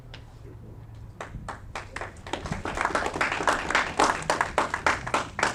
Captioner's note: audience clapping